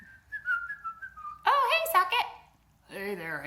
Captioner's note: whistling